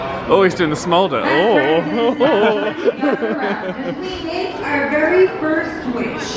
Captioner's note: chuckles